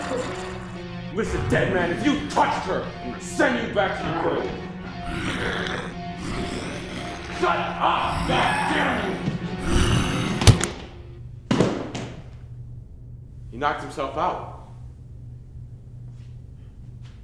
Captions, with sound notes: Listen, dead man, if you touched her, I'm gonna send you back to your grave. (zombie growling) Shut up, goddamn you. (blow thuds) (body clatters) He knocked himself out.